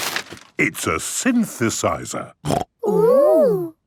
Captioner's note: snorting